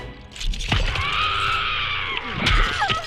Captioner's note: in game: agonized shrieking